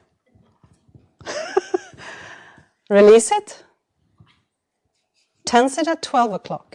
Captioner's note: chuckles